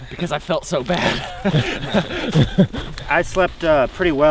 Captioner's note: all laughing